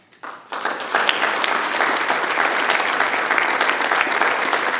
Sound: audience applause

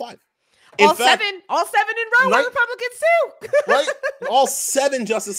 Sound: laughs

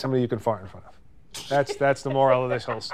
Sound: laughing

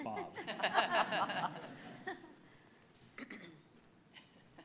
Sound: audience laughing

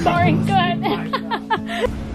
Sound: kewt laugh

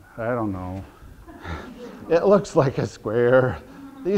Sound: audience laughter

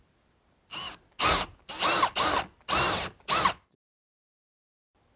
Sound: screw-gun whirs

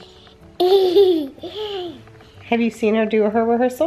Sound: laughs

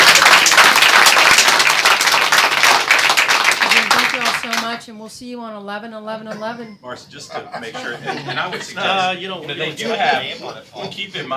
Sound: applause

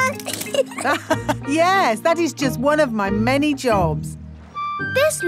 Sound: laughs

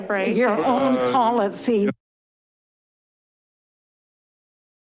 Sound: audio cuts out

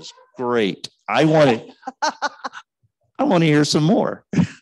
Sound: laughing

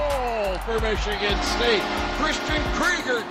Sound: goal horns blares

